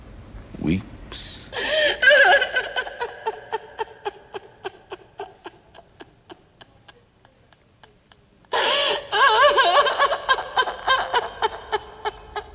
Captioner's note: crying